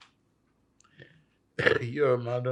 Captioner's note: coughing